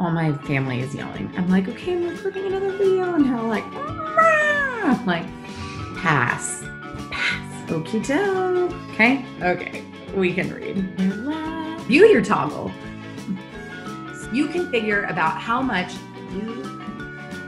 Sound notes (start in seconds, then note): 3.8 makes cry sounds